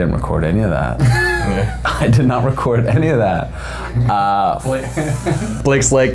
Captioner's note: all laughing